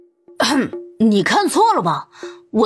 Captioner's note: cough